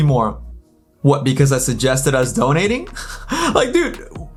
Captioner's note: laughs